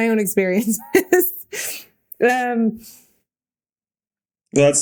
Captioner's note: Mikaela laughing